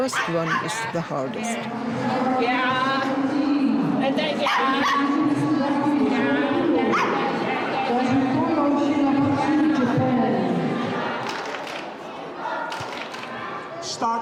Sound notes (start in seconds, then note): 4.6 dog barking; 12.6 synchronized clapping